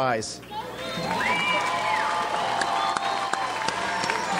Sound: audience applauds

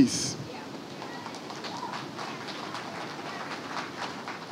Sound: crowd applauds

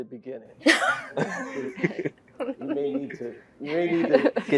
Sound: laugh

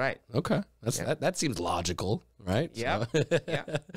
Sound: laughs

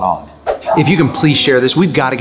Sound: screen swooshes

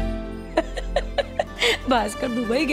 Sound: chuckling

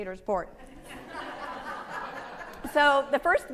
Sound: audience laughing

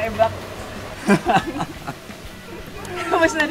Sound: laughing

